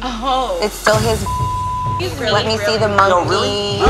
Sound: beep sound

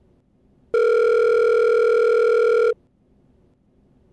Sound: phone rings

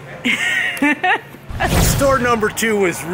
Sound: laughing

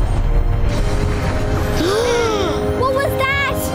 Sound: loud rumbling; gasping

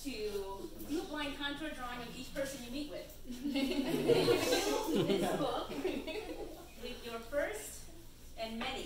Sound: audience chuckles

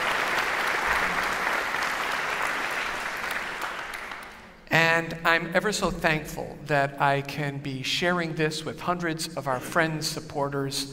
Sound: applause

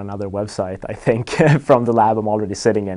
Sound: laughs

